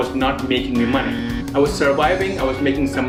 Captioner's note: alarm buzzes